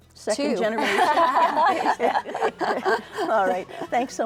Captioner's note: all laughing